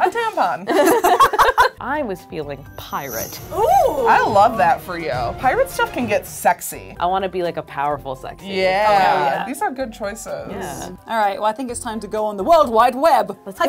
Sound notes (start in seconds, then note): 0.7 laughing